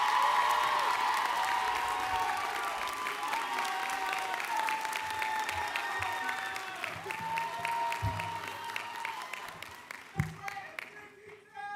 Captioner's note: cheering